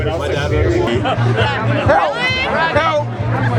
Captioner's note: laughing